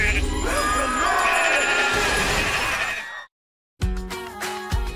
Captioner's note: bleating angrily; crowd gasps; bell rings